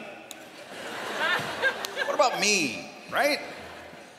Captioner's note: laughter